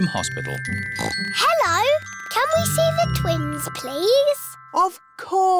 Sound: oinks

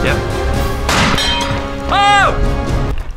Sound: seat exploding

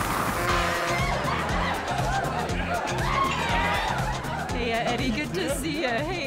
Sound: upbeat music; people chattering

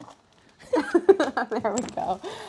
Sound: laughter

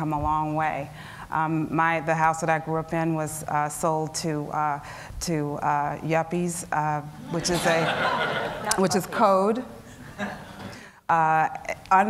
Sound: laughter

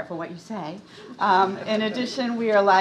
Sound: crowd laughing

